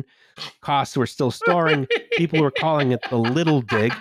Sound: laughs

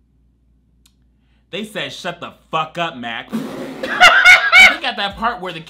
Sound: laughs

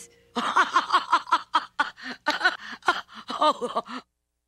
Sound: laugher, followed by choke laughing

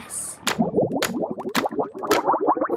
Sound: bubbling

